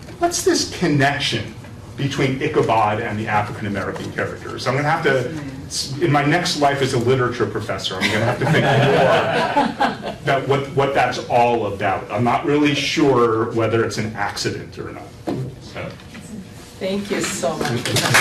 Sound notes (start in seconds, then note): 7.9 laughter